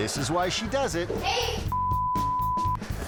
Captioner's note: beep